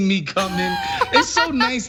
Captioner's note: laugh